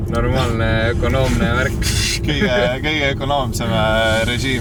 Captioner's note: mono differential burnout sound